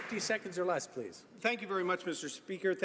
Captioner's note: applause